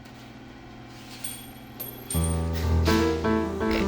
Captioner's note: metal clanging; light jazz music